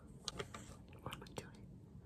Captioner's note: whispered